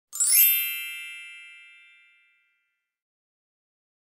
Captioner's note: bells chiming